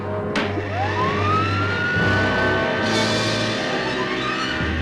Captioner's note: machine whirring